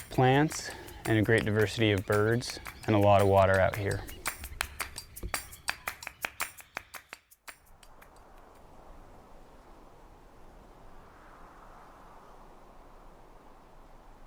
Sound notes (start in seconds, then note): 3.4 percussive music; 9.5 wind blowing